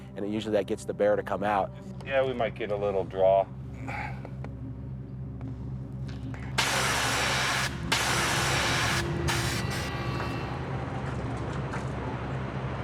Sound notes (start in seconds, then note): 6.6 aerosol can hissing; 9.1 tense music continues